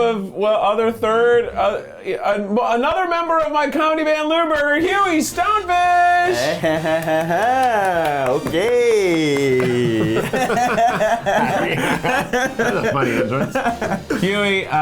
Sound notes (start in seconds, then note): 6.3 laughing; 9.9 laughing; 13.5 laughing